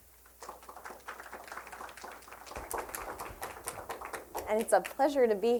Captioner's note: applause